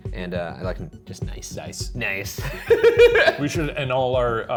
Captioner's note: laughs